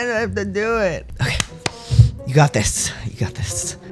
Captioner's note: deep breath